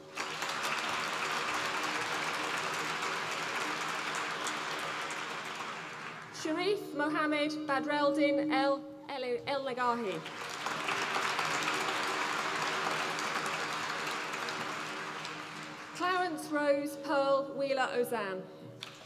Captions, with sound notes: (APPLAUSE) Sherif Mohamed Badreldin E Elnegahy, (APPLAUSE) Clowance Rose Pearl Wheeler-Ozanne.